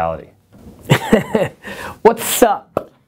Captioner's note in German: Lacht